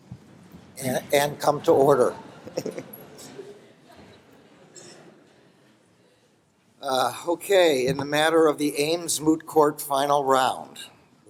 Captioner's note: laughter